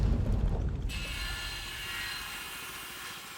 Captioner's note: ominous music playing; chainsaw buzzing